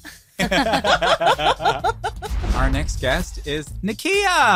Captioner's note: laughing